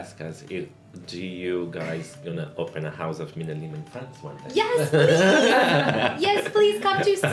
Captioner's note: rire